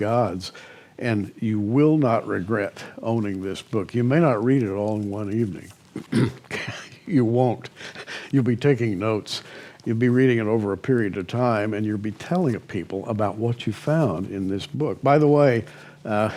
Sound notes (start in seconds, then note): 7.7 chuckles